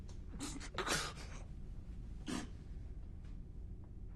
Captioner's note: gasps